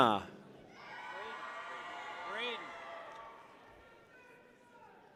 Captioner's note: people cheer